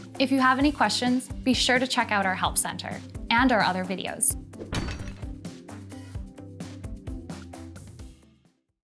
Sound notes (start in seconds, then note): 4.6 clanking sound